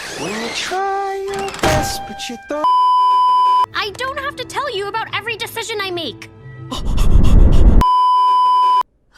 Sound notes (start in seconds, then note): 0.0 squeaky slide; 1.4 door slam; 6.4 more brown noise